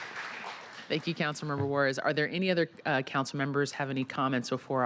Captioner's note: applause